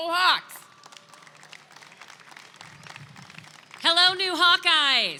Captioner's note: attendees clapping